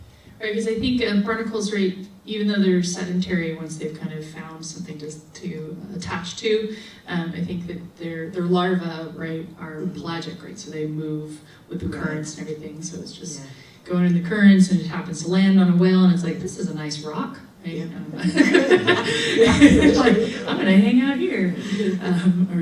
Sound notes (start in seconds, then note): 18.1 audience laughs